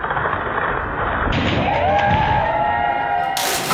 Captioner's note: cracking; students cheering; cheering